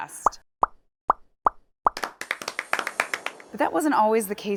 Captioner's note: bubbles popping